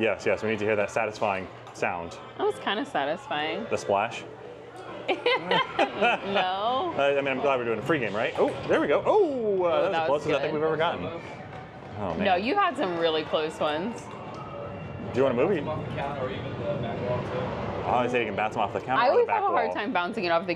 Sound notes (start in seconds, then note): 5.0 both laugh